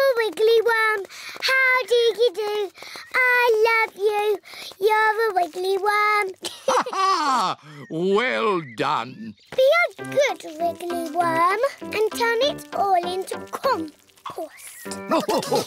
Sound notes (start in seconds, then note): 6.4 laughs; 15.0 all laugh